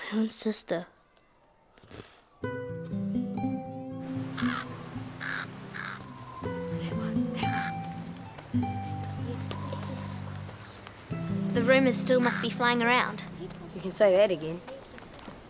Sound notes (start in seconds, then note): 2.6 gentle guitar music; 3.9 birds cawing